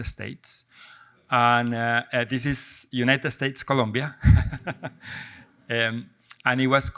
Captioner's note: laughs